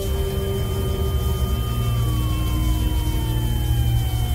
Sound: siren wailing

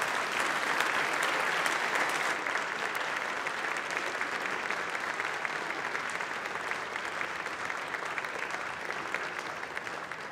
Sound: applause

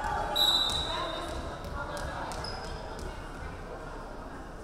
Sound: referee whistling

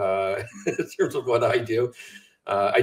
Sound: chuckles

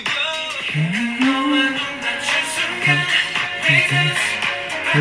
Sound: humming

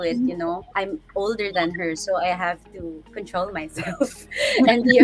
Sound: laughing

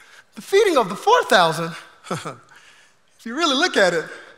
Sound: chuckles

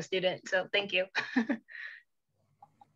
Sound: chuckling

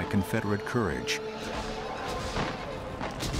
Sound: war sounds

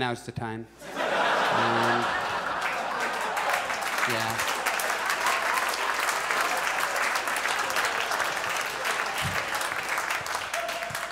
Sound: audience applauds

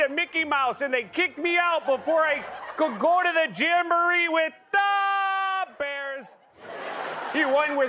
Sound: laughter

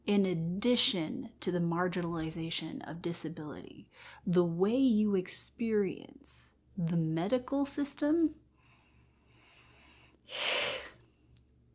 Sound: exasperated hiss

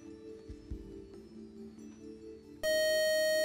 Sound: time-out buzzer

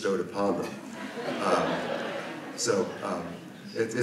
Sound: audience laughs

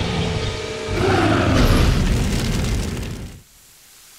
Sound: growling; roars

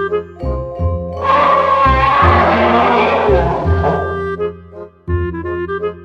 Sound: screams in spanish

